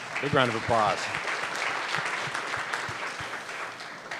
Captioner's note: applause